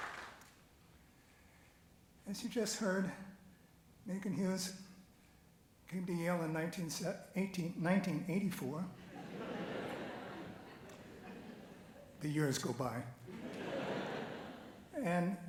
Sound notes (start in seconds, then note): 9.0 laughing; 14.1 laughing